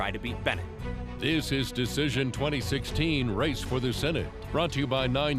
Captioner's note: voiceover